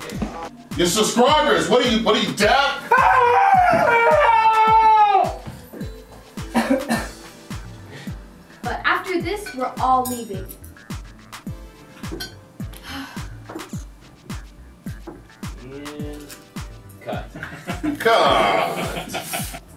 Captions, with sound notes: Your subscribers! What are you, what are you deaf? Aaahhhh! [Coughs] But after this, we're all leaving! And... cut! [Laughs]